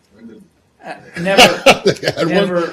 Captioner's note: laughter